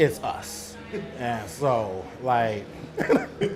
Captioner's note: laughs